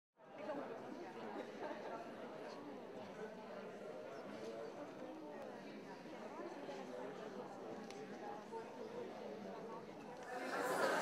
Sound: ambient sounds of crowd talking

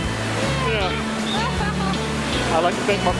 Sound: laughing

